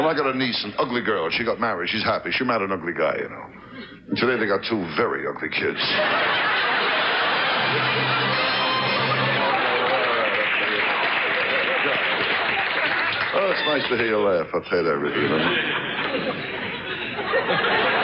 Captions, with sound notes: I got a niece, ugly girl, she got married. She's happy, she met an ugly guy, you know. Today they got two very ugly kids. (audience laughs) (orchestra riffs) All right, I tell ya. Oh, it's nice to hear ya laugh, I tell ya that. (audience laughs)